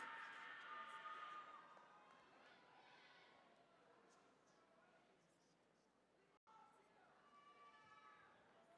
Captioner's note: applause